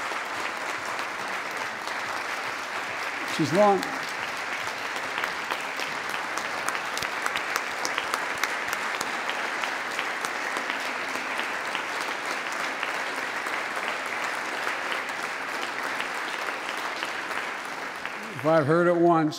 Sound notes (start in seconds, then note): 2.0 applause